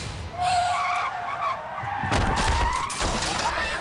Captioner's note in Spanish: Chillido de neumáticos